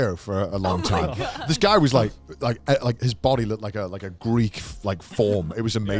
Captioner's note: hosts laugh